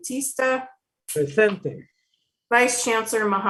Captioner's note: speaking foreign language